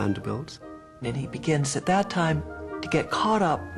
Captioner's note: voiceover